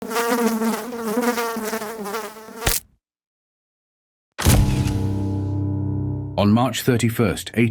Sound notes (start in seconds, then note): 0.0 fly buzzing; 2.6 fly splatting